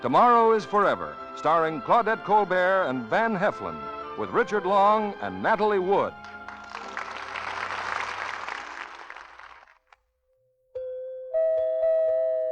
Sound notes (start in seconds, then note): 6.1 audience applauding; 10.7 gentle music